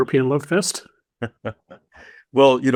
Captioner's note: laughing